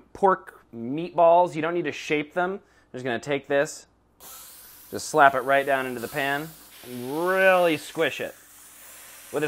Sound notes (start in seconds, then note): 4.2 sizzling